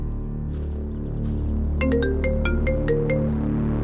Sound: phone ringing

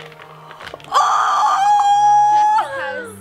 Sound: squealing

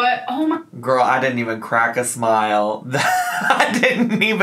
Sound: laughs

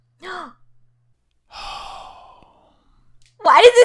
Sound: gasps

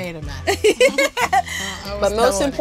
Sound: lauging

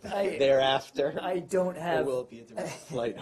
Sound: laughter

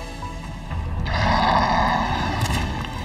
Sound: growls

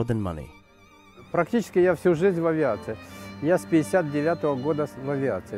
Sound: RUSSIAN with English subtitles

